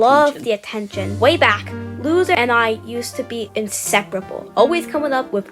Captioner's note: narrating